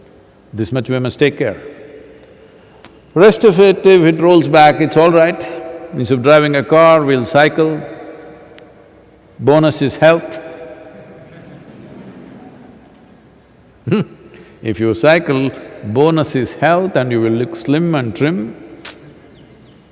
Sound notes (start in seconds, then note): 12.2 laughter; 13.6 laughs